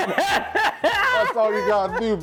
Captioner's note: laughing